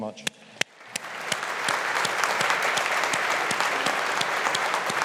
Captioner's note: all applauding